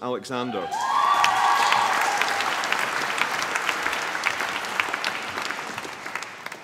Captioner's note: applause